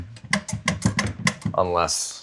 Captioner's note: contraption clattering